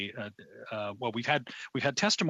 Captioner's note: speaking French